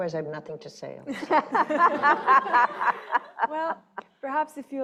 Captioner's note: laughing